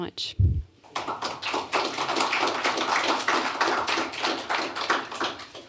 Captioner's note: applause